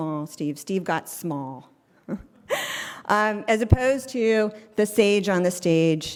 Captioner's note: laugh